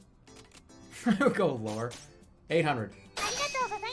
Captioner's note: chuckling